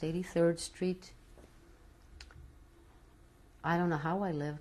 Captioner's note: pauses for 3 seconds